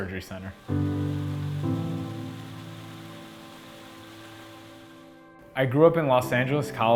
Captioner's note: water running